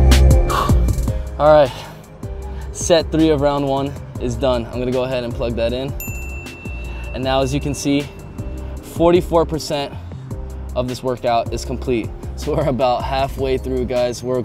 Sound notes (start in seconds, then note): 0.4 exhales; 5.9 bell dings